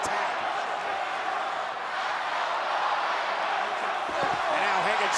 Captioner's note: crowd chants "Let's go Roman/Roman sucks"